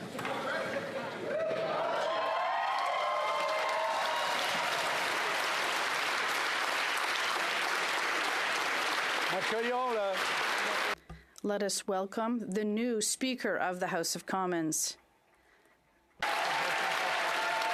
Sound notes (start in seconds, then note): 8.3 speaking French; 8.7 cheering